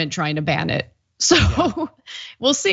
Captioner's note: laugh